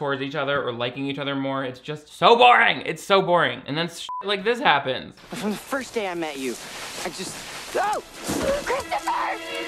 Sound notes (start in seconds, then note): 4.0 beep; 7.7 exclaiming